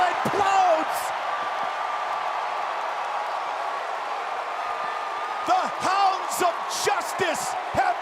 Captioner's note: applause